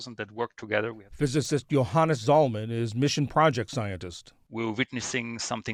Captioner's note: voice-over